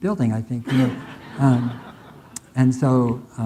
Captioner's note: audience laughing